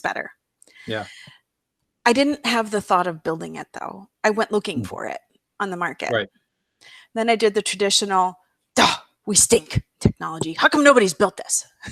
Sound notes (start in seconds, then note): 6.0 scoffs